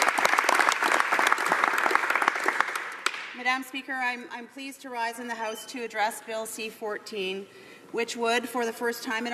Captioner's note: applause